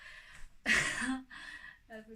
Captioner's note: laughs